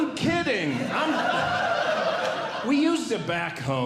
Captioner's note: audience Laughing